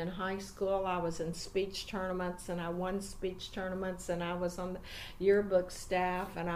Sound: breathes

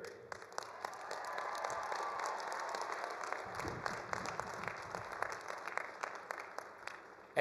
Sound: all applauding; all cheering

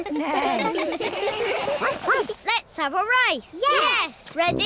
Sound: all laugh; barks

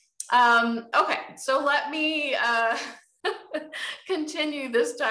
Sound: chuckles

